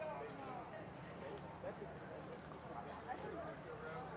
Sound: tourists chatting

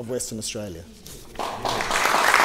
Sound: applause

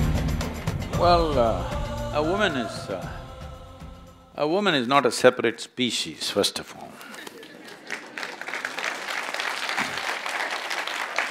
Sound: laughter/Applause

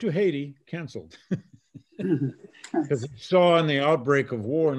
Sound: laughing

